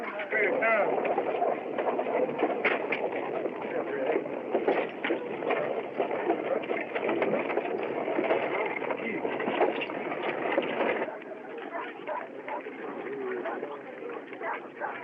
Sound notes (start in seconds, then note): 11.2 dog Barking